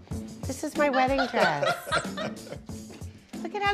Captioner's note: laughter